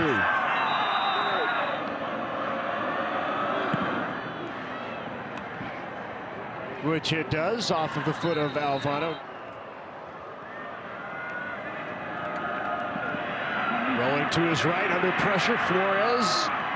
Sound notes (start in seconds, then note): 0.2 fans cheer; 0.5 referee blows whistle; 8.2 referee blows whistle; 13.3 fans cheer